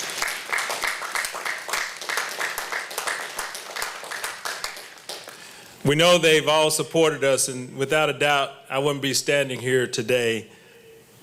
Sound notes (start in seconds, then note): 0.0 applause